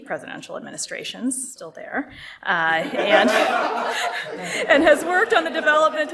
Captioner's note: laughter